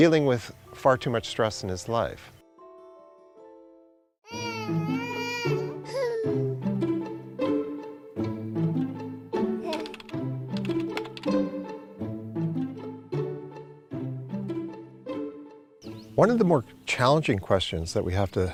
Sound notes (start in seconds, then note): 4.2 child Crying